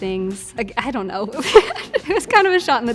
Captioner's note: laughs